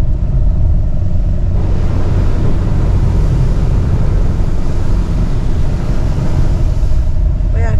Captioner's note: water Sound